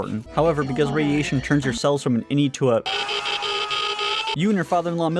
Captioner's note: screaming